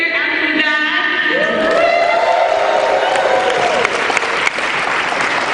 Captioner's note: cheering